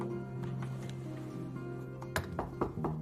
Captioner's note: knock at door